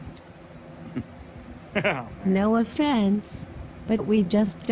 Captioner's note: chuckles